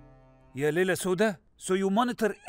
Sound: eerie music plays; speaks foreign language

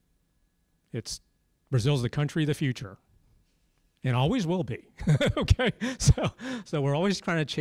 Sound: laugh

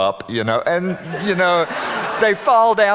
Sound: audience laughing

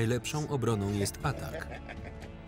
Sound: laughing

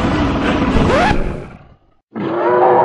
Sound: growling; record scratch again

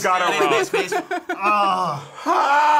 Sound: laughs

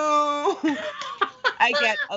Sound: Brennan laughing

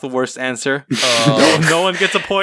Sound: pff

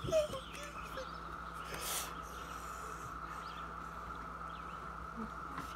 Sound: crying

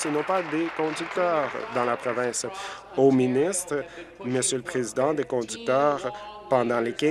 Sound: applause

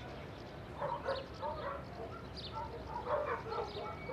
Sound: louder and louder barking

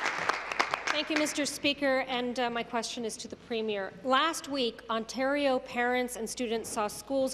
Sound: applause

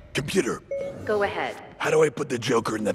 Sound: ding

